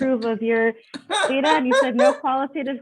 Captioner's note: laughing